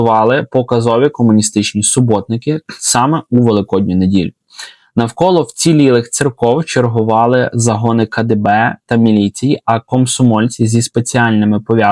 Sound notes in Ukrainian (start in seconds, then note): 4.5 сопіння